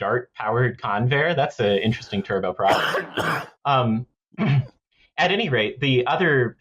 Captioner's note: coughs